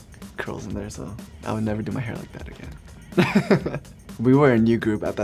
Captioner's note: chuckles